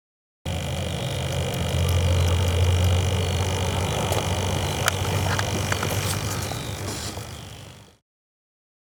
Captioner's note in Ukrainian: Гул мотора безпілотника